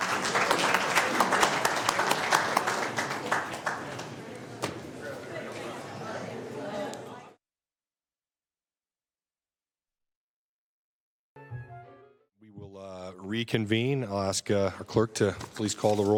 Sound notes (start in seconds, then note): 7.3 applause